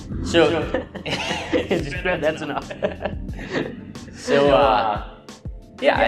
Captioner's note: laughs